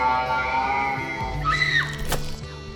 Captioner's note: screams